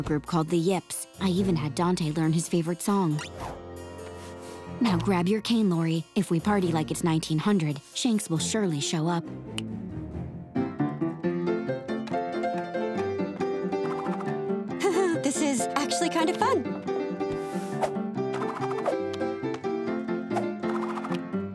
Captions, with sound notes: called The Yips. I even had Dante learn his favorite song. Now grab your cane, Lori. If we party like it's 1900, Shanks will surely show up. [piano playing] [chuckles] This is actually kind of fun. [piano playing]